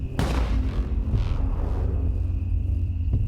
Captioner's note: gun fires